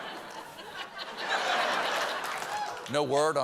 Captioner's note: laughter